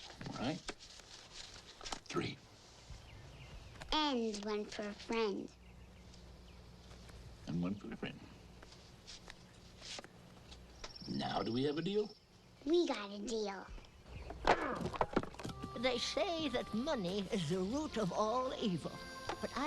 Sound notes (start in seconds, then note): 14.2 wood cracks; 14.3 Eli grunts